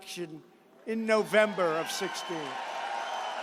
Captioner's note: applause